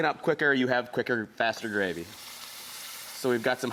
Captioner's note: milk sizzles